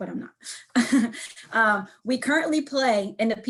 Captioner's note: chuckles